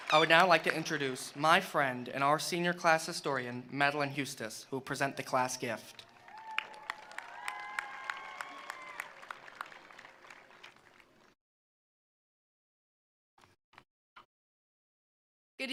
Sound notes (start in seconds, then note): 6.0 attendees applauding; 6.2 attendees cheering